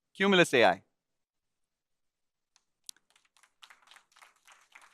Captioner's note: applause